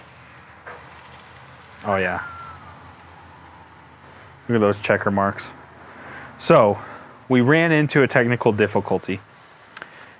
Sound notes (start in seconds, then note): 0.2 steak sizzling; 1.8 whistles softly